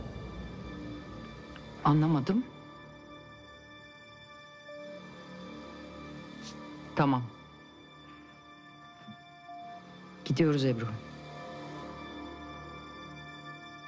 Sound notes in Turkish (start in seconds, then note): none